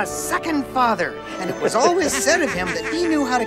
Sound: all laughing

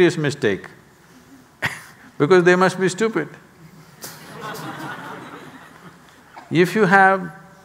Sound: laughs; laughter

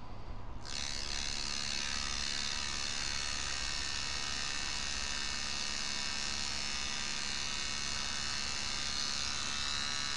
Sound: buzzing sound

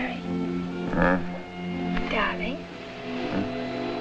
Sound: grunts

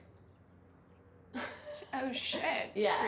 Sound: laughing

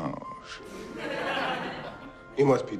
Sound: laugh track

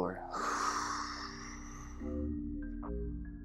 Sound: exhales loudly

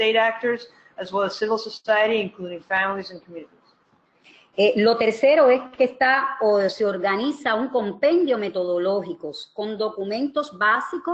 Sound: speaking another language

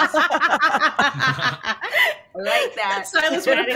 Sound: all laughing

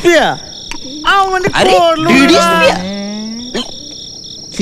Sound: indistinct chatter

